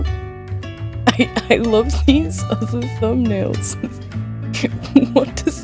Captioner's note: sarcasm